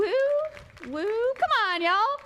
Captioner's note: applause